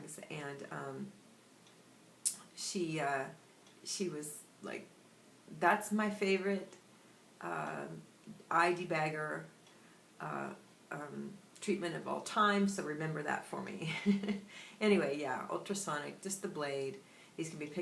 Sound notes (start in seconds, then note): 13.9 laughter